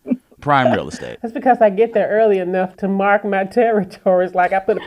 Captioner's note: laughter